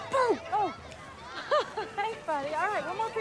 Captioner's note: laughs